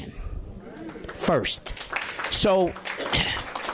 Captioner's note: applause